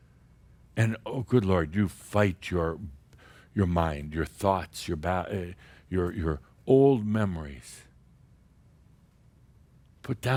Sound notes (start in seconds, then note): none